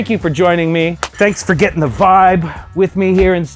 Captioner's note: claps